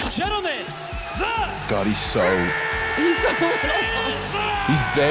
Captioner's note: laughing